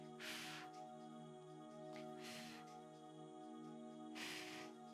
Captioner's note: exhaling deeply